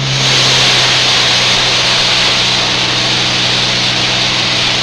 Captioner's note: engine hissing; planes roaring